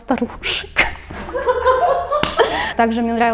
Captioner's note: laughs